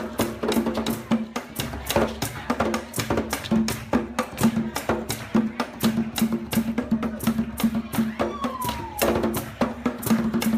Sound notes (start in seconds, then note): 7.9 woman cheering